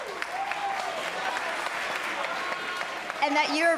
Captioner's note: applause